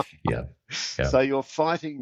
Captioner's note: laughing